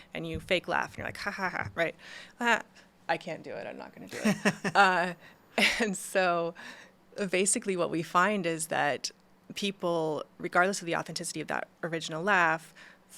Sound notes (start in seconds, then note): 4.1 laughs